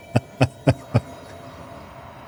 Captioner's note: laughs